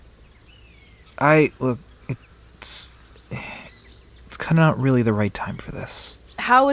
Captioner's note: sigh